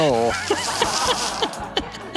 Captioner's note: audience laughing; laughing